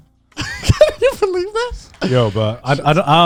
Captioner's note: chuckling